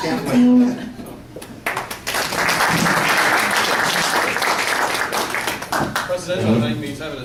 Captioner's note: applause